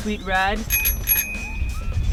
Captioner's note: ring,ring